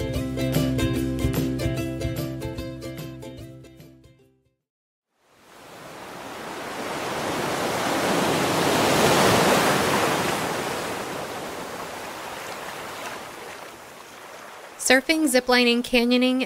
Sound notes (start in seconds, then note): 5.2 background Sound of Waves